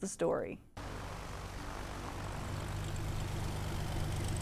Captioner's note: engines running